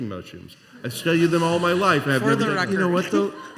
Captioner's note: laughter